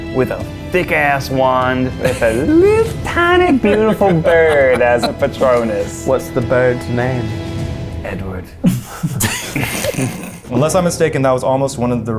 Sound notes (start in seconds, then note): 8.6 laughs